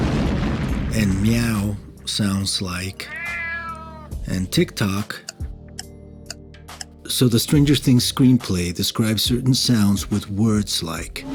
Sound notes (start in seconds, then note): 3.0 a cat meowing; 5.2 a clock ticking